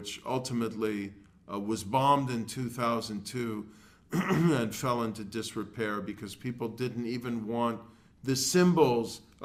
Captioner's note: cough